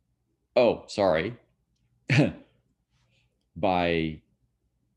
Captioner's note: chuckles